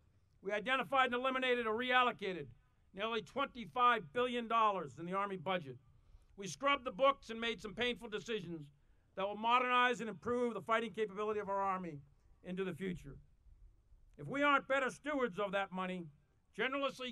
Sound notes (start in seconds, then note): none